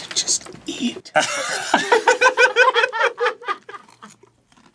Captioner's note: laughing